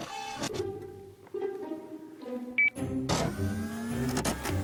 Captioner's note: machine whirring